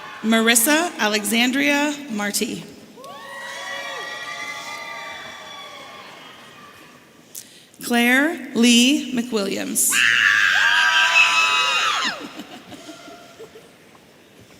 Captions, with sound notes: Marissa Alexandria Marti. (audience cheering) Claire Lee McWilliams. (audience members yelling)